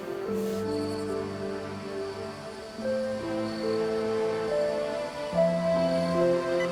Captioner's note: crickets chirping; tender synth music continues